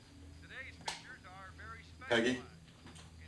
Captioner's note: sound from tv continues